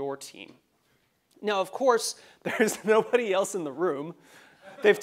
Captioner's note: laugh